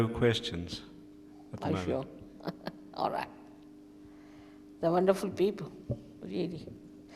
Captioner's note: shri mataji laughs